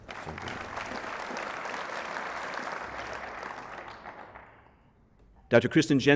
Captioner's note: applause